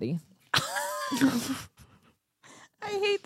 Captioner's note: laughs